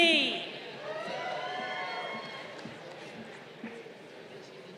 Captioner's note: crowd cheering